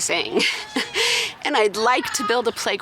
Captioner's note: chuckles